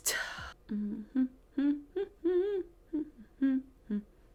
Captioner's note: humming